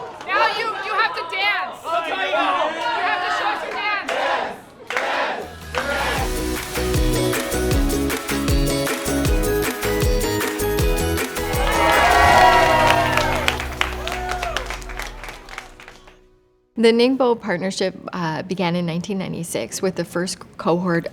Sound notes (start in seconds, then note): 0.0 kids cheering; 4.2 group cheers; 5.8 lively music; 11.2 cheering